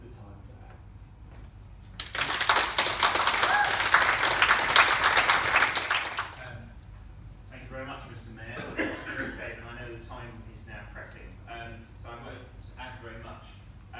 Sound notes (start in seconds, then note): 1.9 clapping and cheers